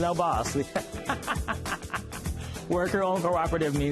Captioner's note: laughs